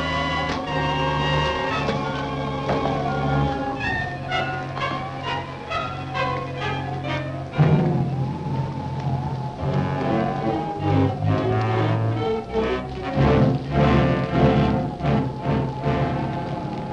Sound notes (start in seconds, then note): 2.9 dramatic music; 2.9 wind howling